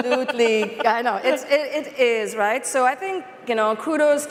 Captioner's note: laughter